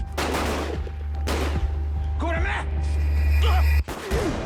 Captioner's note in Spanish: Disparos